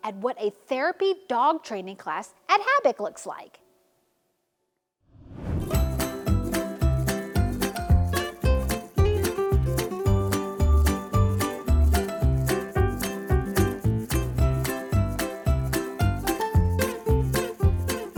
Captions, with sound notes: at what a therapy dog training class at HABIC looks like. (transition whooshes) (playful upbeat music) (playful upbeat music continues)